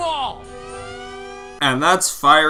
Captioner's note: flynn's siren wails